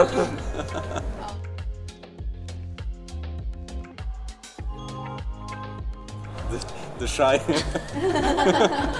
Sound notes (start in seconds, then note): 7.4 giggling